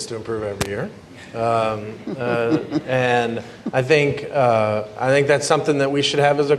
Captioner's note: laughter